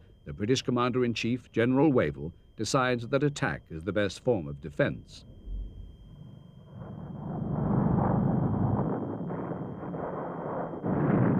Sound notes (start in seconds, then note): 9.2 explosions